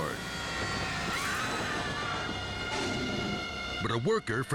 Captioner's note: woman screams